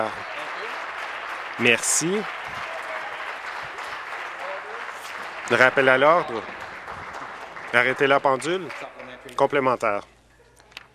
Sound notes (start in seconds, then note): 3.6 applause